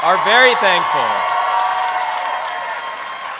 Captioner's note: cheers